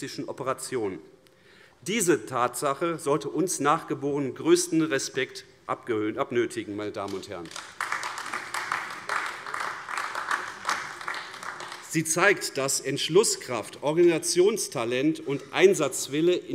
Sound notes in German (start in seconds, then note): 7.0 Beifall AfD